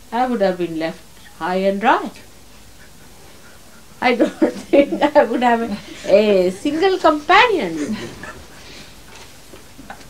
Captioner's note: mother is laughing